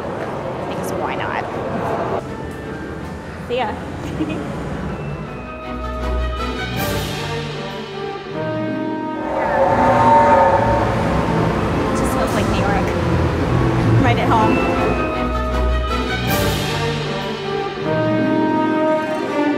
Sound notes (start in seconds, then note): 8.9 train whistle blowing loudly